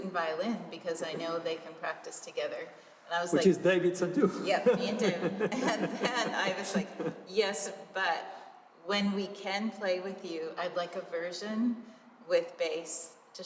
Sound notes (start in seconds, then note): 3.9 laughter